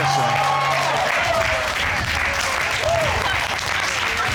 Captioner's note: audience cheering